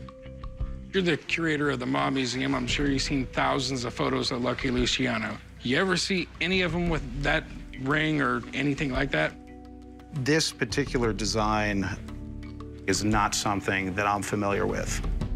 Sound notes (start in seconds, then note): none